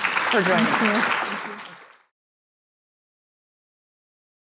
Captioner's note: crowd applauds